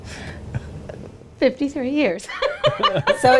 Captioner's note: laughing